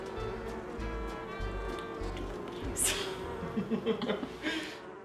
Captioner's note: laughs